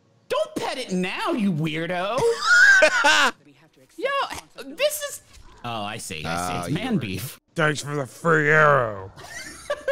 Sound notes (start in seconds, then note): 2.1 laughs